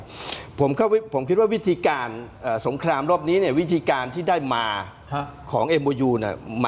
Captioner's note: sound of inhaling